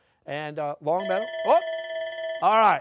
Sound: bell rings

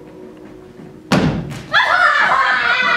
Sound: feet thumping

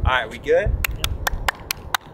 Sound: clapping

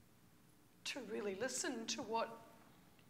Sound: voice breaking

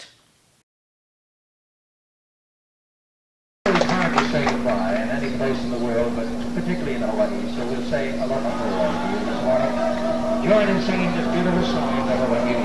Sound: The running noises of our Super8 film camera can sometimes be heard

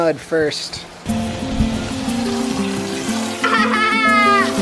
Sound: water fizzes; playful music; laughs

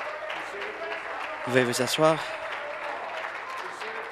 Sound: applause

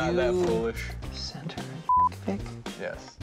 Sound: beep

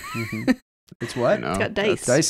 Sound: laughing

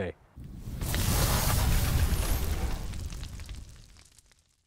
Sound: logo crackling

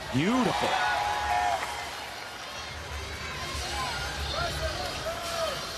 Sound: audience cheering

